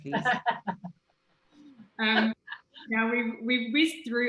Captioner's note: laughs